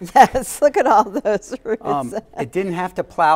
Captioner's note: laughing